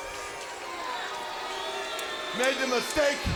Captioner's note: crowd boos